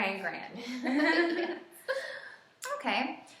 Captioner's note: laughing